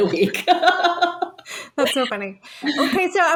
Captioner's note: person laughing